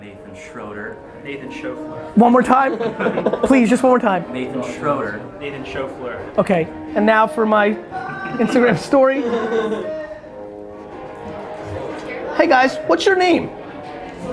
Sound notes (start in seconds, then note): 2.3 group laughter